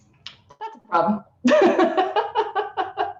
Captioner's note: laughing